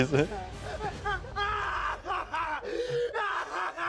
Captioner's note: cackles